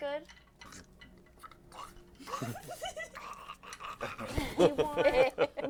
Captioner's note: disgusted noises